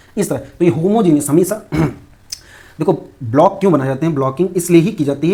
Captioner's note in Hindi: गला साफ़ करने की आवाज़